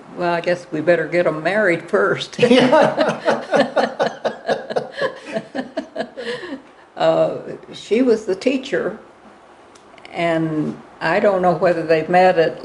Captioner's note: laughter